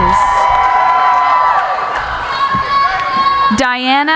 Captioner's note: cheering